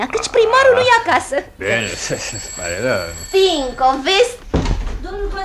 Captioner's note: the doorbell